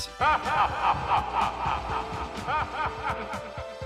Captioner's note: evil cackle